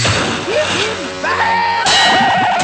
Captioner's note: gurgled Yelling